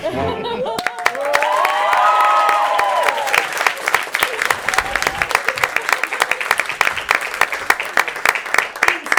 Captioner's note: applause